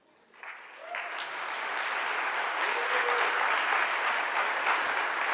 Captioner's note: audience clapping and cheers